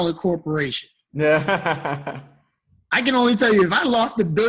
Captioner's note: laughing